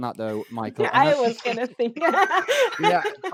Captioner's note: laughing